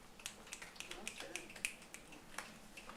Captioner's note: applause